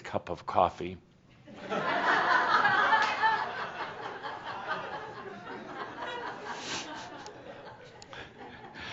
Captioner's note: laughter as Adamus makes a face because his coffee isn’t there yet